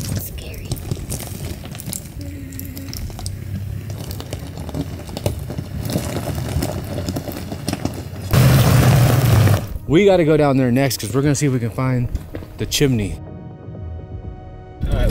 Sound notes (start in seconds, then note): 3.9 gravel crunching